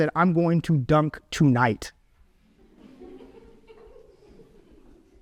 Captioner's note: audience laughs